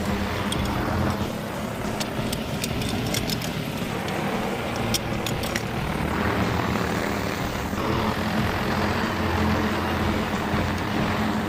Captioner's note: aircraft motor roaring